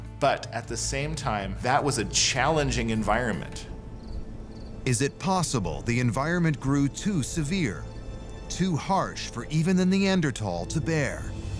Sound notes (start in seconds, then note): 3.7 crickets chirping